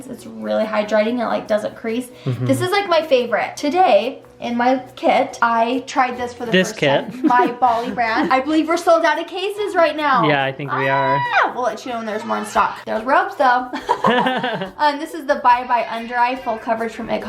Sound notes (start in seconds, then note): 13.4 laughs